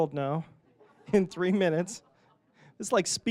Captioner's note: audience laughing